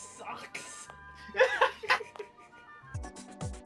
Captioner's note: idiots laughing